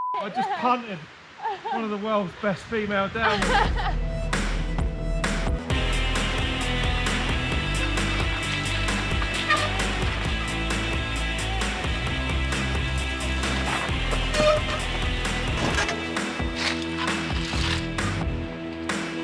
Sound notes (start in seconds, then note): 4.4 upbeat music continues playing; 13.3 bicycles thudding and rattling